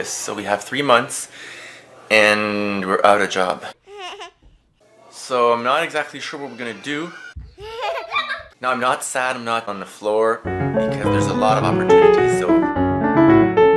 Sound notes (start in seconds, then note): 3.8 baby giggles; 7.4 baby giggles; 10.4 piano music